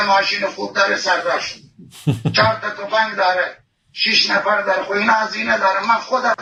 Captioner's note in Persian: خنده